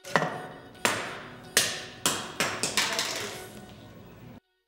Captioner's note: spinner hits floor